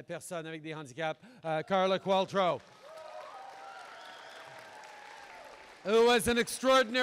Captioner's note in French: Applaudissements